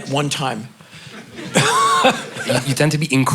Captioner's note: laughter